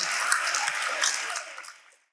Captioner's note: audience applauding